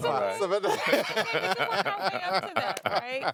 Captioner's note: laughing